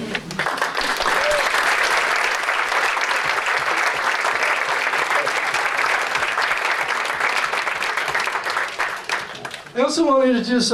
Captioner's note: applause